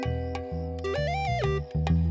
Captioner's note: electronic tone